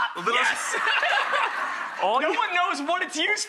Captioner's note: laughs